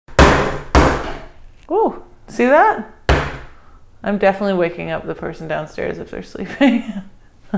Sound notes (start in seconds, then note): 0.1 pounding